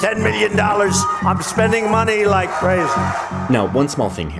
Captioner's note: crowd cheering